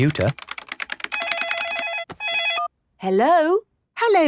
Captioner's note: phone ringing